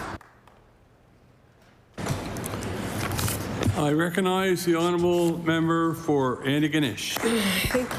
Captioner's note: applause